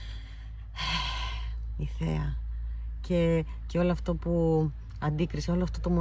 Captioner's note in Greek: αναστενάζει